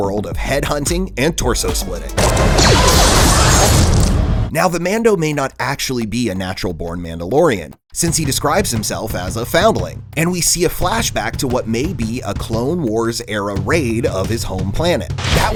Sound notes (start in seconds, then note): 2.2 laser gun shooting